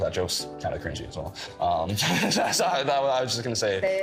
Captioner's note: laughing